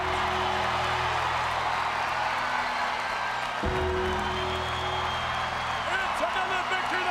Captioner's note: crowd cheers; bell tolls